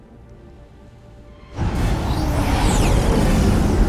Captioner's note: thunder crashing